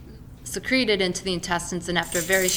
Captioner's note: keys falling